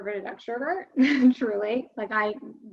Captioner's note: chuckles